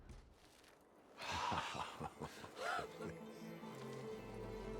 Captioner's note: laughing